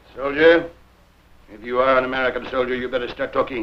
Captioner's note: footsteps